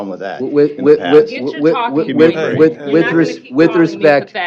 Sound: overlapping chatter

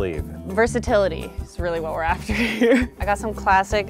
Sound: laughs

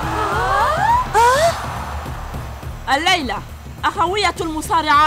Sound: crowd gasps

